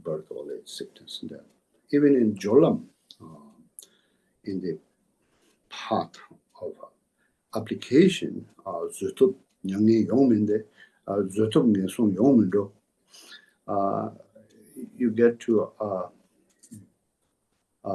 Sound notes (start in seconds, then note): 4.1 tibetan